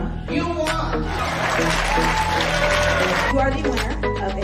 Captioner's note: applause